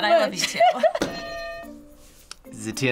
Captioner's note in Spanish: suena la campana